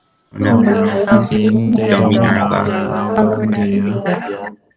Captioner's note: speaking Spanish; group speaking Spanish